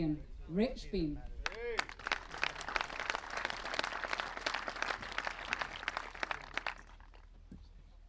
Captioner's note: applause